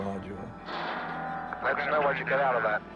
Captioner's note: loud clank